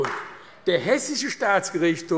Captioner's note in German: Beifall AfD